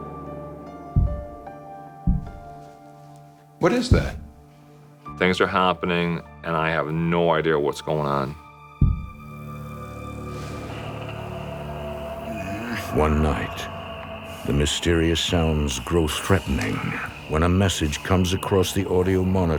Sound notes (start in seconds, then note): 2.0 thudding; 10.7 Jay groans; 10.7 scratching